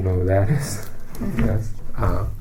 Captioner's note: laughs